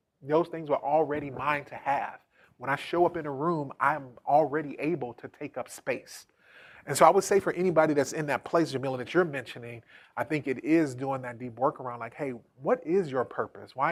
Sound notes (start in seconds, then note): none